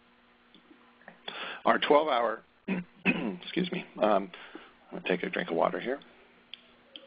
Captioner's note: clearing throat